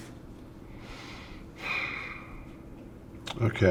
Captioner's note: Tom sighs